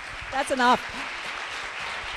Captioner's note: applause